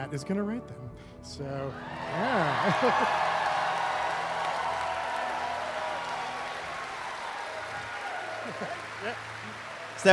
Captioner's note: cheering